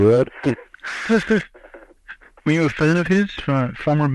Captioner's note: laughs; both laugh